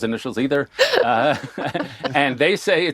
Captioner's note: laughter